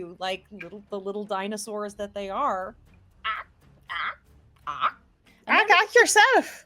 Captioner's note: squawking